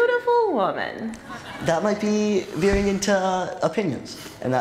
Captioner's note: laughter